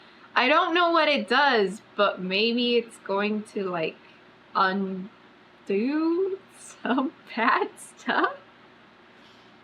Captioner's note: laughs